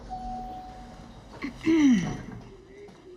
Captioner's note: elevator dings; clears throat